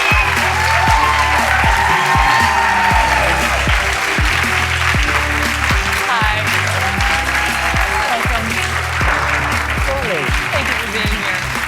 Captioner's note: cheers and applause